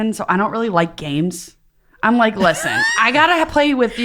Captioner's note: laughing